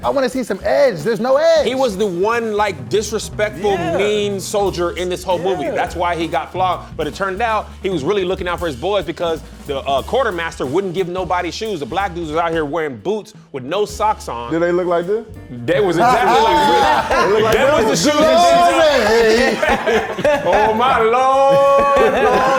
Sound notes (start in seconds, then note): 15.8 laughing loudly